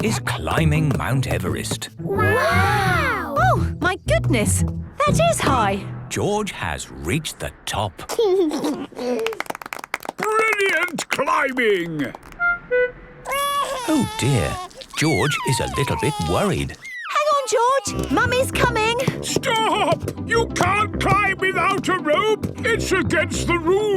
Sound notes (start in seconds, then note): 8.2 George giggles; 9.1 clapping; 13.2 crying